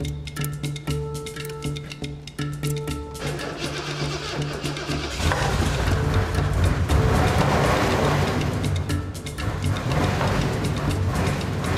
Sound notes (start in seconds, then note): 3.2 engine turns over; 5.5 engine revving